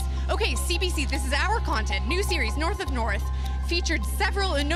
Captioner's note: mixed voices